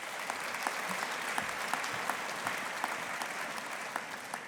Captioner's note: audience applauding